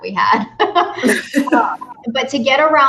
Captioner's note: both laughs